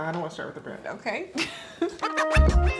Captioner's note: laughs; upbeat music